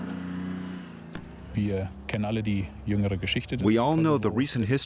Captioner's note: speaking German